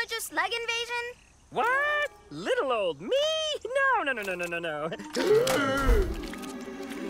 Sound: gasps

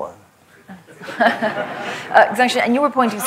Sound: laughter

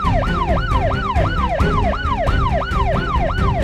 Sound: sirens wail

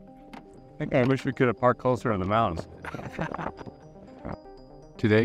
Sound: laughter

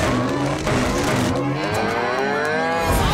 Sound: mooing

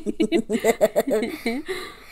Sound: laughs

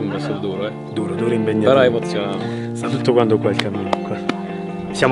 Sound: taps on legs

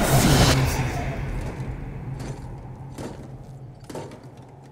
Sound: armor clanking

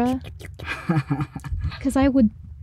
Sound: laughing

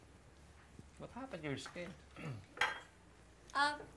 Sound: clears throat

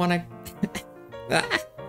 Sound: cough

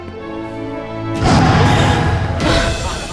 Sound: roaring; gasping

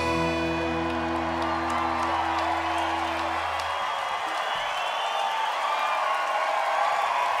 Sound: crowd applauding; crowd cheering

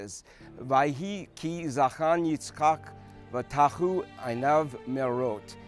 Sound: speaking hebrew

